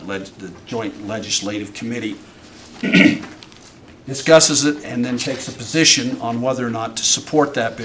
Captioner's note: clears throat